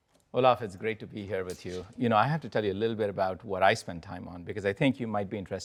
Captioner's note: none